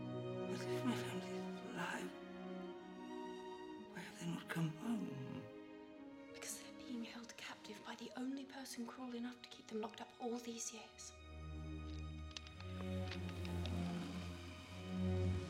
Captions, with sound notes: But if my family's still alive... why have they not come home? Because they are being held captive... by the only person cruel enough to keep them locked up... all these years. (NECK CRACKING) (GROANS)